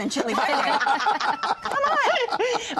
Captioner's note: laughter